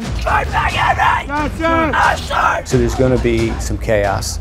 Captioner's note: screaming